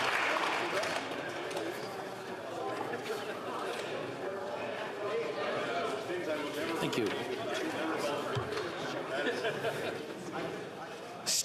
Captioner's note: applause